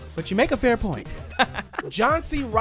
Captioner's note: laughs